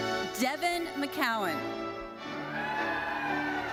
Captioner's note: audience cheering